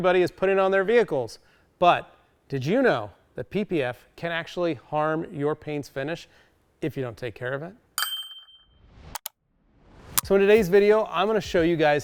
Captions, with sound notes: is putting on their vehicles. But did you know that PPF can actually harm your paint's finish if you don't take care of it? (bell dings) So in today's video, I'm gonna show you guys